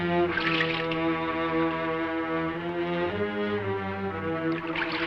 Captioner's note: suspenseful orchestral music; water splashing